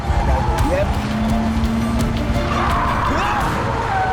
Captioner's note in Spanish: Ruido del vehículo; Frenazos